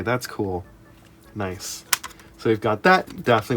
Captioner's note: CD jewel case noises